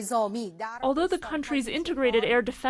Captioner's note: through translator